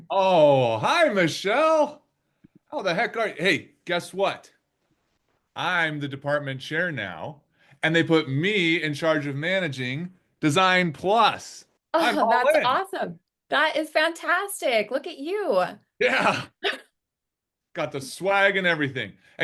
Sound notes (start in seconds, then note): 16.6 chuckles